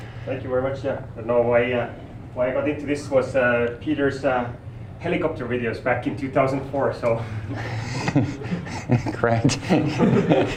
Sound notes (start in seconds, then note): 7.4 all laughing; 10.3 laughter